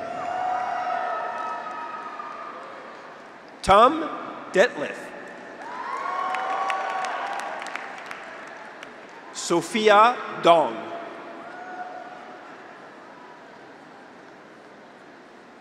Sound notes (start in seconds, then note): 0.0 graduates cheer; 0.3 audience applauds; 5.5 graduates cheer; 5.6 audience applauds; 11.3 graduates cheer